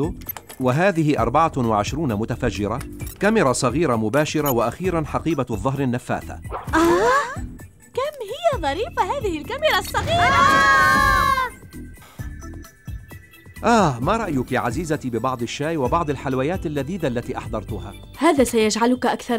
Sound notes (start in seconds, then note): 9.6 shrieking